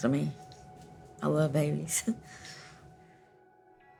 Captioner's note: chuckles